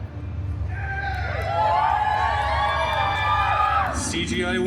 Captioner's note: guests cheering